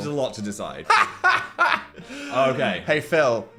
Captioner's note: Dan laughs